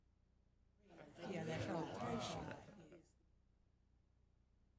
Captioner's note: people chattering